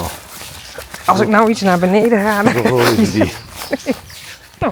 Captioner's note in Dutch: gelach